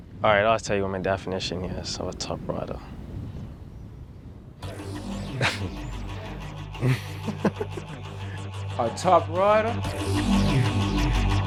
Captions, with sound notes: All right I tell you what my definition is of a top rider. (upbeat music) (chuckles) (giggles) A top rider?